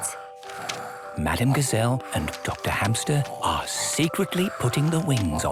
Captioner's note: whispering